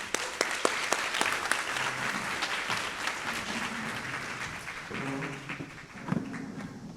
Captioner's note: applause